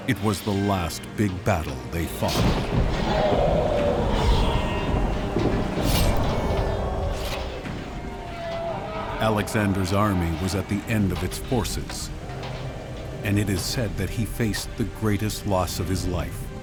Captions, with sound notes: It was the last big battle they fought. [screams] Alexander's army was at the end of its forces. And it is said that he faced the greatest loss of his life.